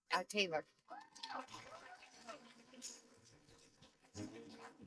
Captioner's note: applause